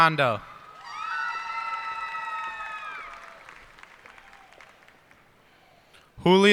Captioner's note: cheers and applause